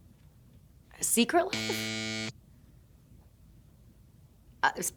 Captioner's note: graphic buzzing